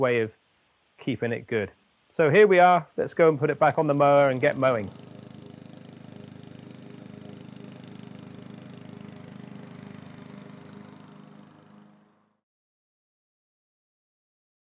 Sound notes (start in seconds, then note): 6.6 lawnmower humming